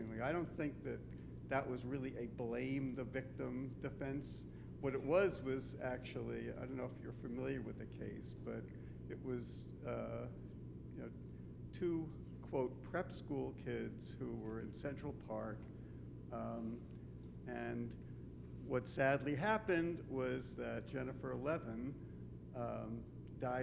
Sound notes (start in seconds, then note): none